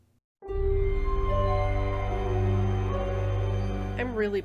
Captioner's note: ominous Audio and Embers